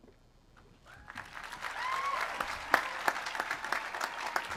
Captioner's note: audience applauds